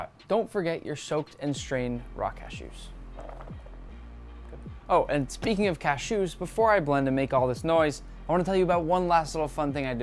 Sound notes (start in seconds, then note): 3.1 cashews clacking; 3.4 upbeat music